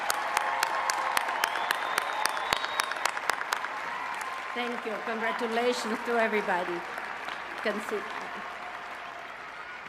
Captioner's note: cheers and applause